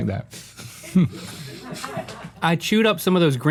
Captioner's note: laughing